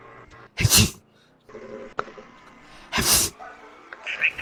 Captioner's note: sneeze; sneeze